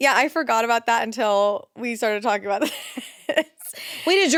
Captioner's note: laughs